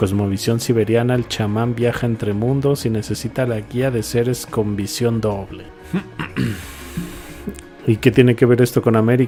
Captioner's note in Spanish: carraspeo